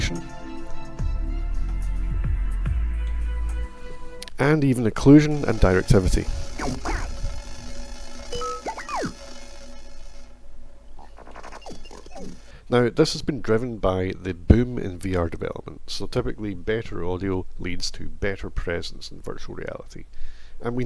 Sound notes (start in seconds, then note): 6.9 digital Sounds